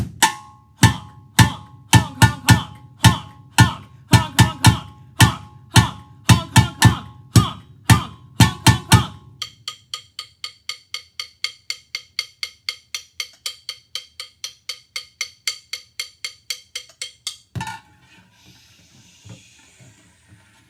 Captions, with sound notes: Honk honk honk honk honk, honk honk honk honk honk, honk honk honk honk honk, honk honk honk honk honk. (clicks sticks together) (rubs sticks on can)